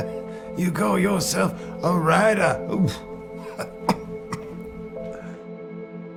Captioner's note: laughs and coughs